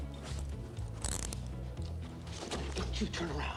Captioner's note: cuffs clicking